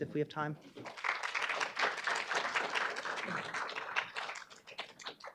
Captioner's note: audience applauding